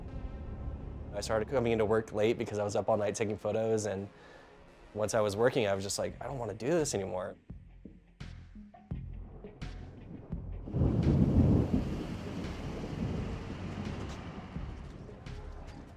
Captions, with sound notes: I started coming into work late because I was up all night taking photos, and once I was working, I was just like, "I don't want to do this anymore" (thunder)